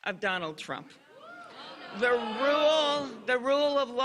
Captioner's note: cheers and applause